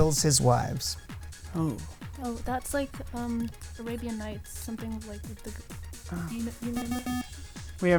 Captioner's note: wispering